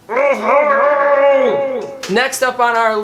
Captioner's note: frustrated groan